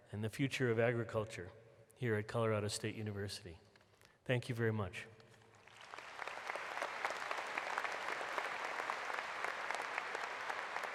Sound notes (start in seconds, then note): 5.4 applause